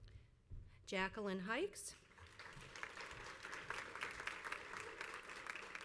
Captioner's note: crowd applauds